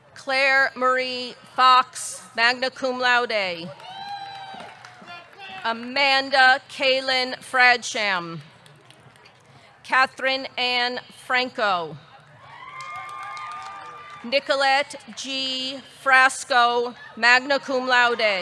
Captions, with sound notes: Claire Marie Fox, magna cum laude. (audience cheering) (audience clapping) Amanda Kailin Fradsham. Kathryn Anne Franco. (audience cheering) (audience clapping) Nicolette G. Frasco, magna cum laude.